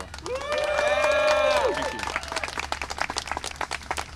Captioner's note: applause and cheering